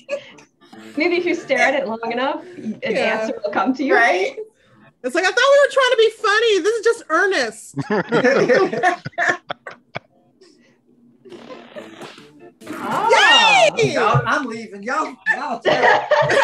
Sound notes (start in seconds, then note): 7.8 everyone laughs